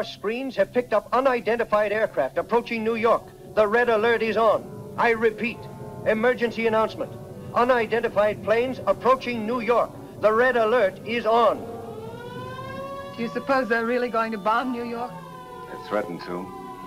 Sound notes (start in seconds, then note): 11.8 sirens blaring